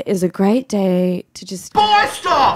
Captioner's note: yelling